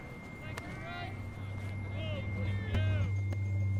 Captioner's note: players shouting; quietly tense electronic music